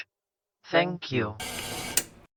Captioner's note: static, then a click